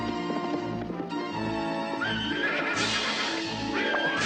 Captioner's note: whinnies